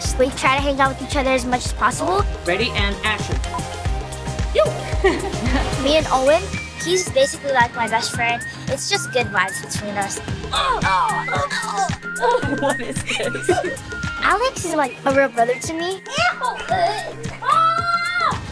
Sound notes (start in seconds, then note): 4.6 laughs; 10.5 both grunting; 10.6 laughing